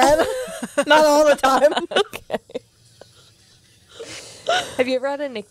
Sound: laughs

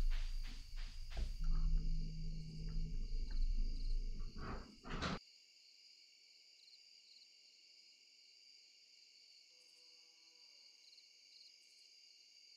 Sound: long pause

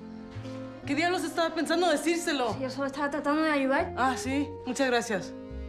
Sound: Lupe and Esti speak in Spanish

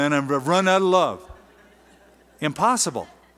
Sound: laughter

